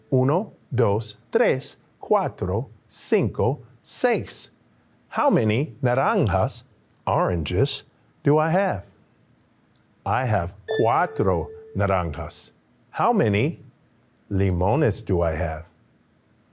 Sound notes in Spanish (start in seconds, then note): 0.3 continúa hablando en español; 6.5 habla español; 10.5 habla español; 14.1 habla español